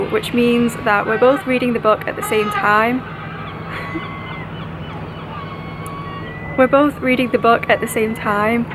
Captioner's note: boat horn